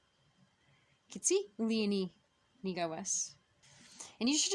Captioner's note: speaking Abenaki; speaking Abenaki